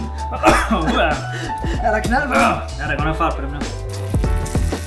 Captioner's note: coughs from the mango Habanero